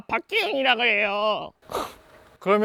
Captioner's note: scoffs